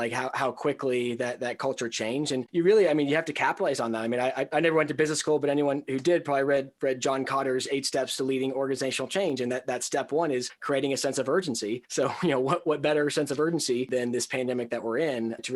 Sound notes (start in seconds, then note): 12.0 chuckles